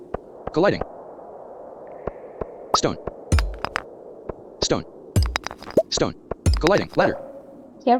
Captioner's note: sound of pickaxe destroying the stone